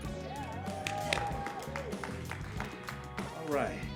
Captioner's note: applause